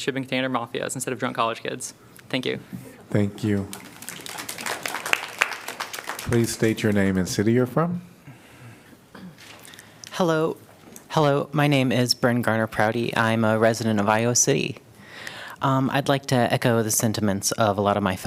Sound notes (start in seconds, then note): 3.6 applause